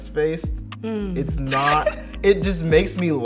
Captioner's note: Junelle laughs